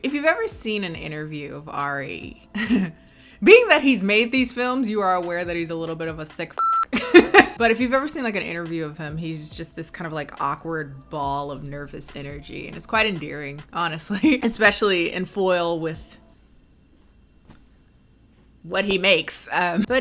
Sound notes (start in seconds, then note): 6.6 beep; 6.9 laughs